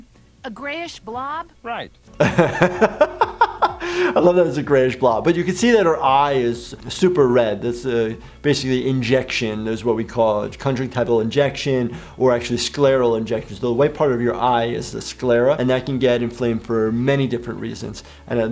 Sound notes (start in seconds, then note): 2.2 laughing